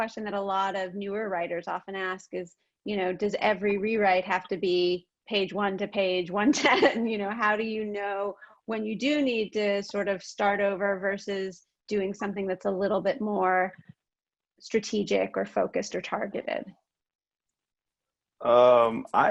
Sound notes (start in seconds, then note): 6.4 laughs